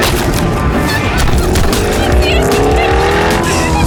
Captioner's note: splattering and laughter